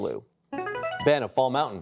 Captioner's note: buzzer chimes